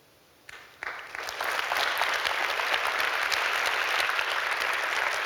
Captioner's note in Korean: 박수